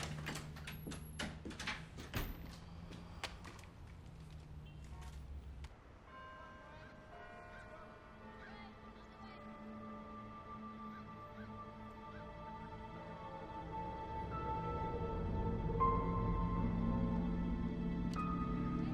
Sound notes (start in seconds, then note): 0.0 door latch clicks; 6.0 church bell dinging; 9.6 birds chirping; 15.3 suspenseful music